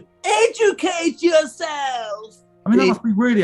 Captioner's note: screeches